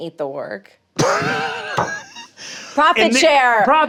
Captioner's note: laughs